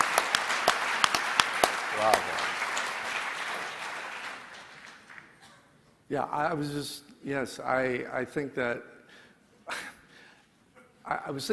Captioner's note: applause